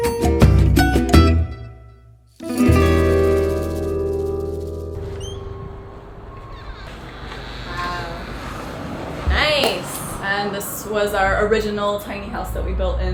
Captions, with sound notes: (door squeaks) - Wow, nice. - And this was our original tiny house that we built